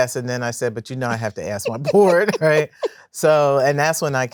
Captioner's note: laughs